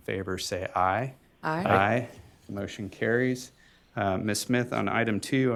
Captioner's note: chorus of ayes